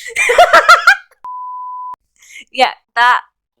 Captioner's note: laughs maniacally; TV static beep